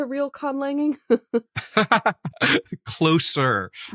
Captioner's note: laugh